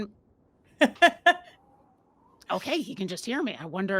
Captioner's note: laughs